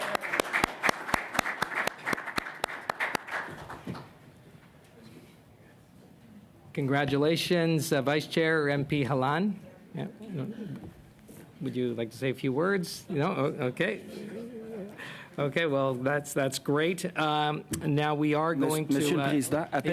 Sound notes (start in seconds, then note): 3.3 applause